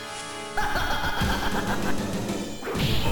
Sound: White Queen laughs

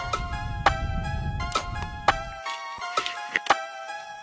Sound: crickets chirping; bow snaps

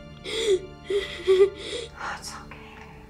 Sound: Hayley crying

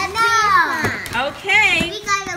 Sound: voiceover

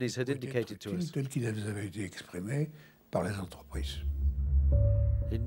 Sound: French spoken audio

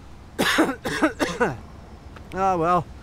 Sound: coughs

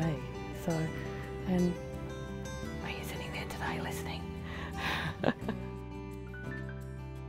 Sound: whispers; laughs

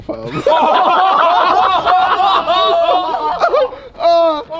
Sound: everyone laughing

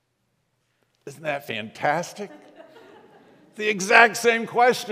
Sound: congregation laughs

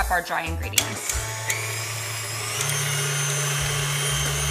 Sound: mixer whirring

